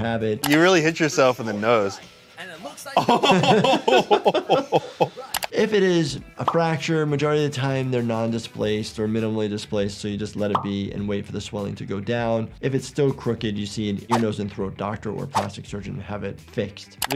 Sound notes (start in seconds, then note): 2.9 laughing